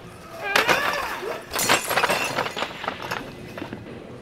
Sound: grunting; crash

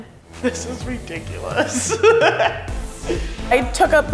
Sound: laughs

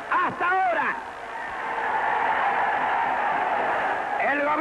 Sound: cheering

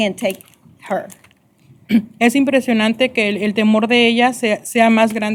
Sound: speaking spanish

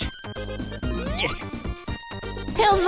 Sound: Vinny grunts

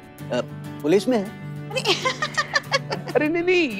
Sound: chuckling

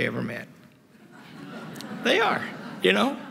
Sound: laughter

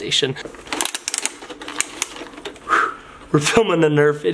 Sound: swish noises

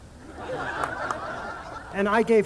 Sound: audience laughing

